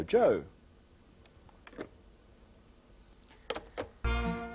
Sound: pause

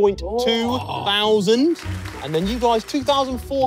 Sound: crowd clapping

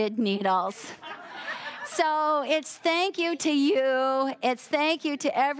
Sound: audience laughing

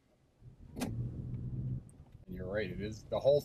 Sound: engine hums

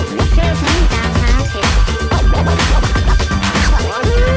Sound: record scratching

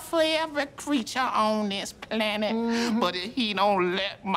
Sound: Key mmhmms

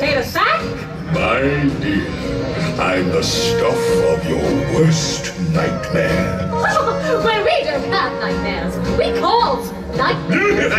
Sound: laughs

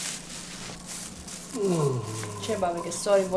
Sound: groan

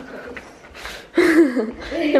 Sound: chuckles

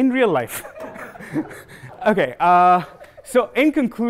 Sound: laughter

